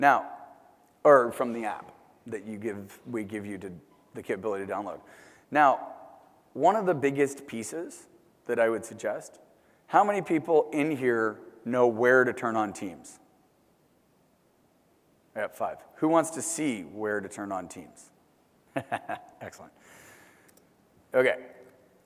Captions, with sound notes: Or from the app that we give you the capability to download. Now one of the biggest pieces that I would suggest, how many people in here know where to turn on Teams? I got five. Who wants to see where to turn on teams? [LAUGH] Excellent. Okay. So,